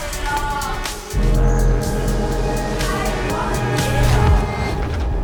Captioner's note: electronic blurring